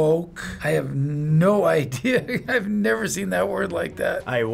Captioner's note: laughing